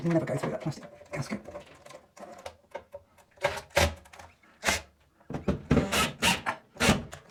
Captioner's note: mooore drilling!